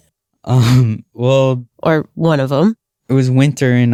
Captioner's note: laughs